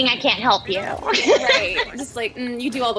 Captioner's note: laughter